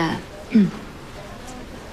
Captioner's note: clears throat